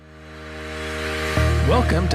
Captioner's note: low rumble